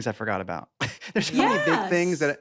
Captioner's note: laughs